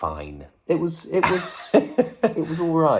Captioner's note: laughs